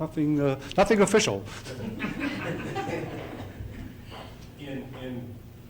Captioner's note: laughter